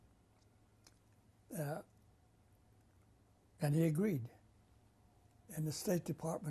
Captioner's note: pauses for 3 seconds